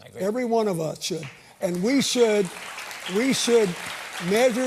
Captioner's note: applause